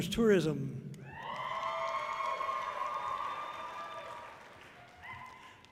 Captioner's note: audience cheering loudly